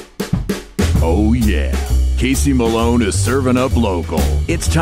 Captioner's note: voiceover